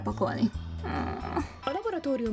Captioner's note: sad noises